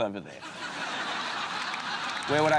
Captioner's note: laughter